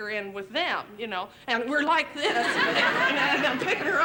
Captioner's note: laughter